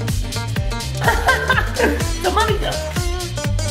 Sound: laughs

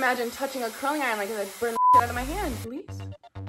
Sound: beep

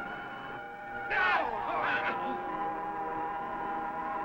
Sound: men groaning

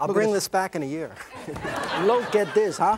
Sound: audience laughs

